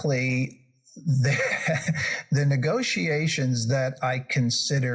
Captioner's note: laugh